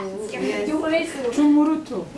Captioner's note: foreign language spoken